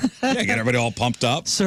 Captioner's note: laughing